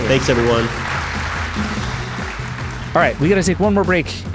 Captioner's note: audience applauding; upbeat music